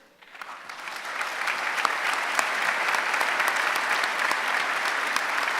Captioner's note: applause